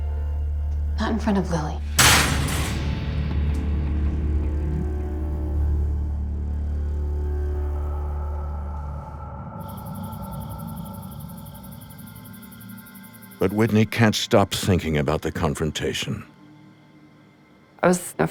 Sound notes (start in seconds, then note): 1.7 spoon slams; 2.9 eerie music